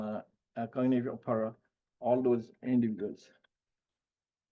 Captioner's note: speaking faintly